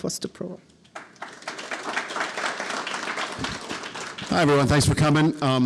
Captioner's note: audience applauding